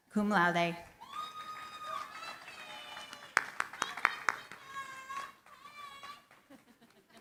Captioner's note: cheering, applause